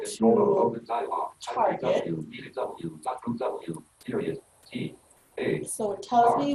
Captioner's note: rapid artificial speech